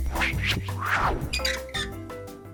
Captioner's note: hinge swinging